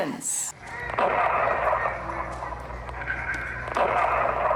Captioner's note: guns firing